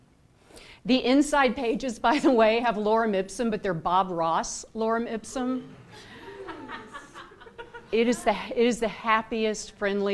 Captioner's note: laughter